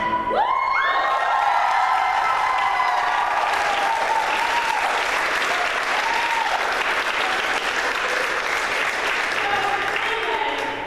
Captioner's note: applause